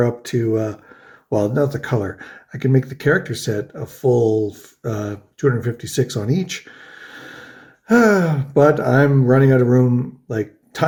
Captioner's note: sighs